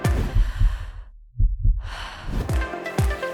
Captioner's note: deep breath